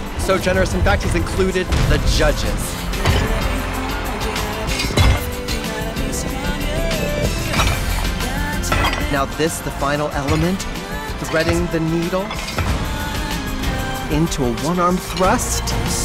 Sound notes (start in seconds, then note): 2.8 weights clink; 5.9 weights rolling; 7.5 weights clink; 12.3 weights clink